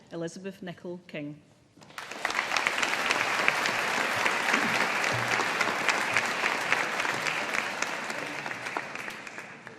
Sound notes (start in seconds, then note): 1.8 audience applauding